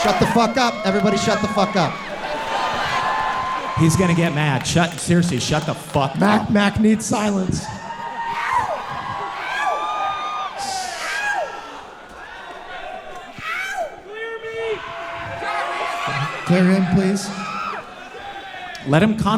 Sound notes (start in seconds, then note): 2.5 audience cheering; 8.6 audience cheering loudly